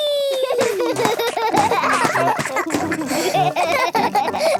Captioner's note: both laugh